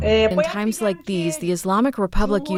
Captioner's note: through translator